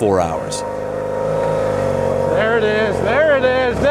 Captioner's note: bike whirring